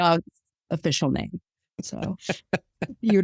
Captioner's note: laughs